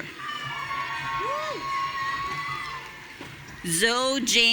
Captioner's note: audience cheering